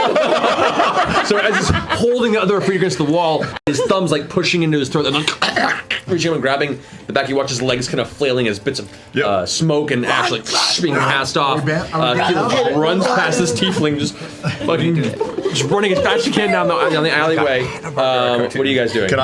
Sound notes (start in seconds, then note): 5.1 choking